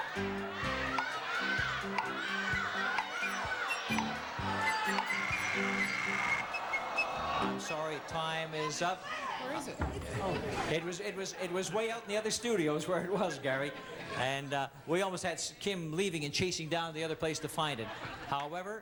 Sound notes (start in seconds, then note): 4.8 audience groans; 4.8 buzzer buzzes